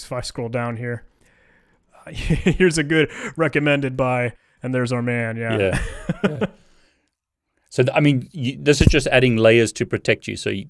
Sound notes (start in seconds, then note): 5.5 laughing